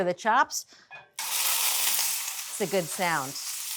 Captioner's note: oil sizzling